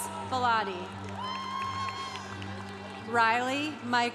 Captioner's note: congregation cheering